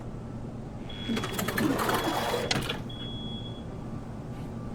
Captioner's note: door Opens